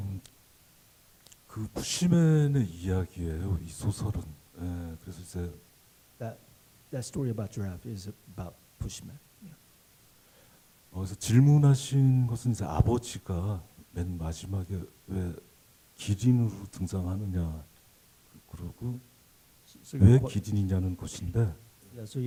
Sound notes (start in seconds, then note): 0.3 speaking Korean; 10.7 speaking Korean